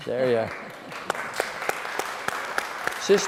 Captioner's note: applause